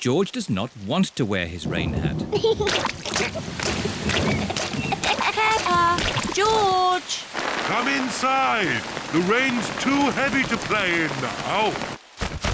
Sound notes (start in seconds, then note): 2.2 giggling; 2.6 thunder rumbling